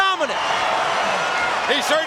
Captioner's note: audience cheering